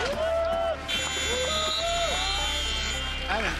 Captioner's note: cheering; buzzer